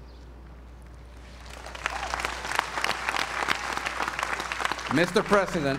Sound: applause

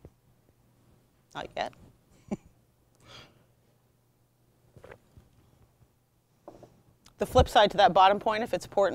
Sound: chuckling

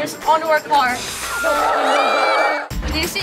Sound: all screaming

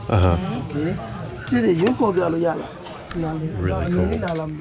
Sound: speaks in foreign language

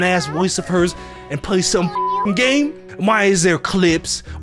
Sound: beep

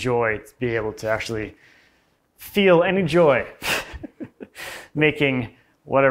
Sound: laughs

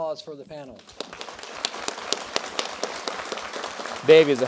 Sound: applause

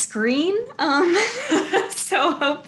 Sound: laughs

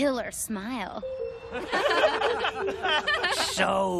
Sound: laughing

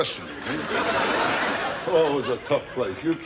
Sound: audience laughter

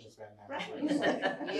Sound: laughter

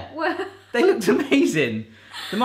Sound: laughs

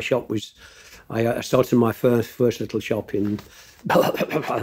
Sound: spluttering

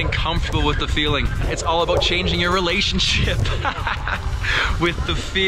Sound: laughing

